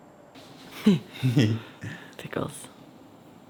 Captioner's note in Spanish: riendo